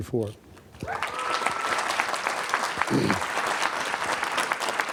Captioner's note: applause